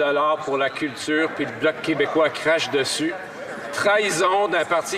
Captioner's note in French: voix de l'interprète